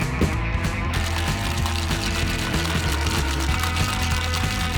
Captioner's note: ice shaking